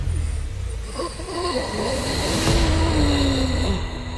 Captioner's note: man wheezing